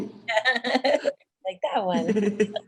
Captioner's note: laughs